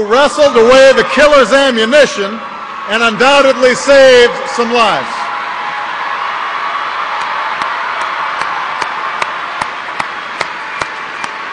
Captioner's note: applause